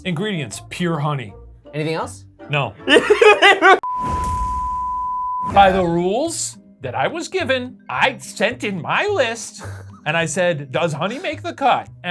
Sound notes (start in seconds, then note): 2.8 laughing; 3.8 tone beeping; 3.8 drumbeat thumps